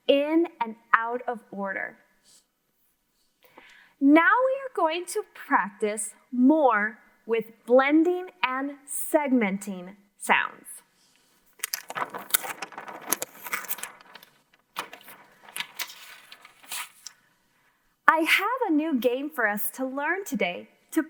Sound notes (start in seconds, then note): 11.5 paper rustling